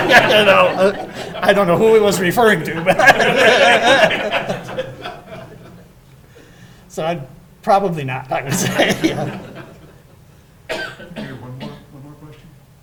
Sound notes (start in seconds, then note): 2.6 audience laughing